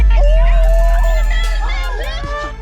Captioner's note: people shouting indistinct